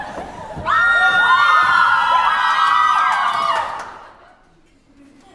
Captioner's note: cries and howls